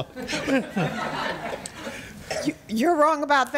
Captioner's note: audience laughs